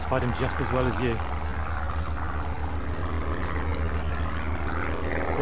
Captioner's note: aircraft engine rattling